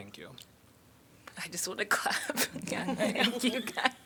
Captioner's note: laughter